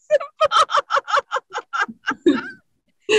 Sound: both laugh

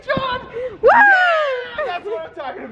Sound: cheering

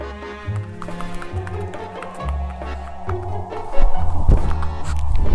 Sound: swoosh Swoosh

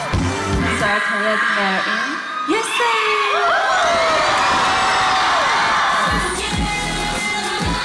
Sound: cheering

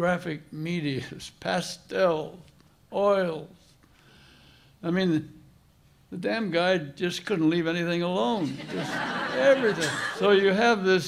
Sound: laughter

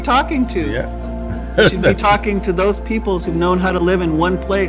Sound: laughs

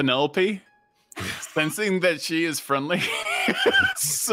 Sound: laughs

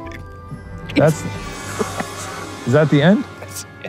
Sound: laughing

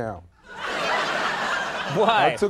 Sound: audience laughing

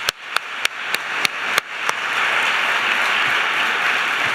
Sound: applause

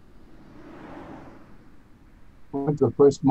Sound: vehicles whooshing

